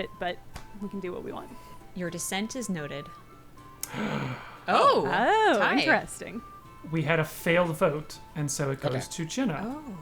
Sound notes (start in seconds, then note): 3.9 gasping in shock